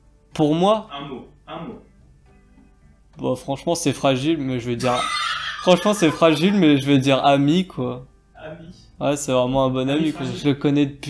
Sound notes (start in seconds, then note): 4.8 laughing in the back